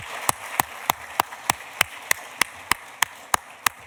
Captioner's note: applause